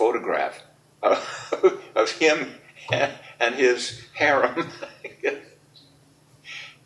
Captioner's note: laughs